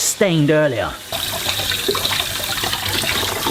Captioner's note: water running